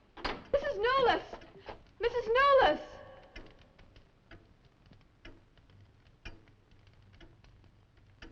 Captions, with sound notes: Mrs. Newless. Mrs. Newless. (clock ticking)